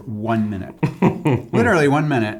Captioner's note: laughs